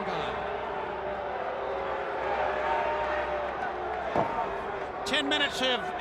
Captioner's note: crowd cheering